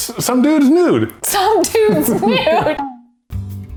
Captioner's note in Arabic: ضحك